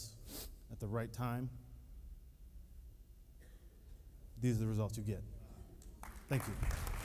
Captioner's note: applauding